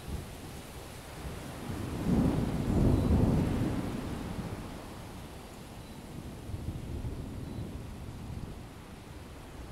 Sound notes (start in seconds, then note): 1.2 thunderstorm